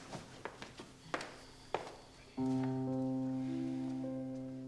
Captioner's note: footsteps plodding